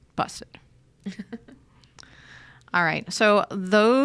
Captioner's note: chuckles